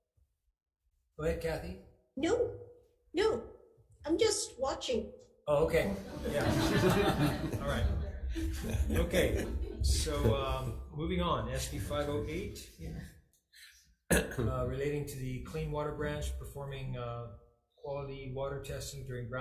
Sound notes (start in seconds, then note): 6.0 crowd laughing